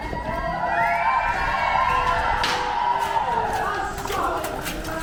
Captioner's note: cheers